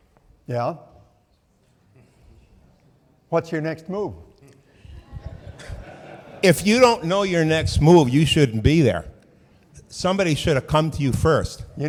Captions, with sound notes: - Yeah? What's your next move? (audience laughing) - If you don't know your next move, you shouldn't be there. Somebody should have come to you first.